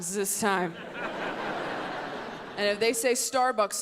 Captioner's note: audience laughs